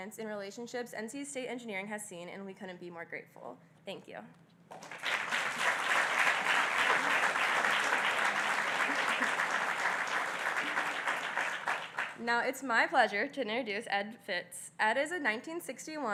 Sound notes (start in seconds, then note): 6.9 applause